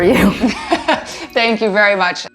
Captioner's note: laughs